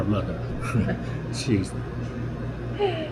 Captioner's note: laughter